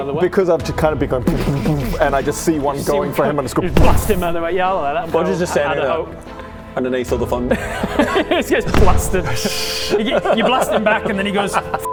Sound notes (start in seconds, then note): 3.6 boom